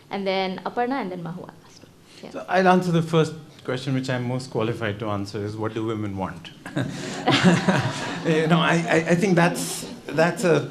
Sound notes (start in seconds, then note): 6.7 everyone laughing